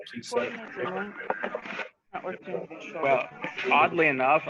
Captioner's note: radio scratching